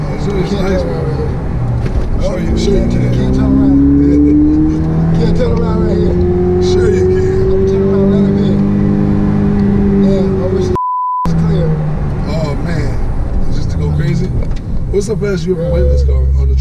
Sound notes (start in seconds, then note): 10.6 beeps